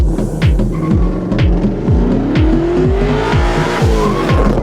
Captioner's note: techno music; car engine revving; tires screeching; car engine revving; tires screeching